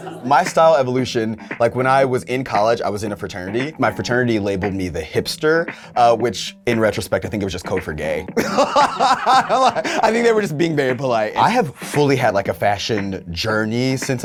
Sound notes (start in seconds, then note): 0.0 all laughing; 8.4 laughs